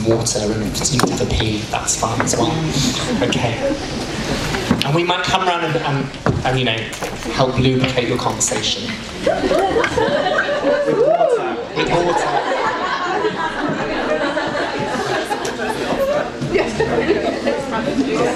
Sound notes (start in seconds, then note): 9.2 audience whoops; 12.0 laughter